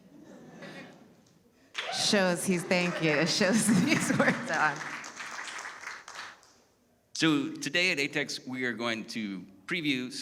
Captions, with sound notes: (audience laughing) - Show he's, thank you. It shows these words on (chuckles). - So today at ATX we are going to preview